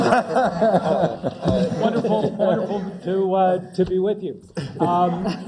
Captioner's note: laugh